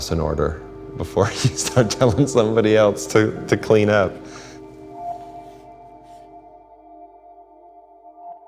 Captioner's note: chuckling